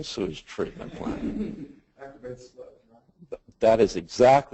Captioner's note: laughter